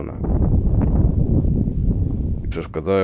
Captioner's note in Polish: szum wiatru